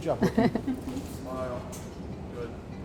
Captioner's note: all laugh